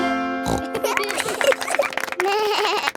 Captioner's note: snorts; laughing; bleats and laughs